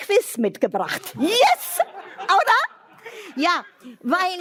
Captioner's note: laughter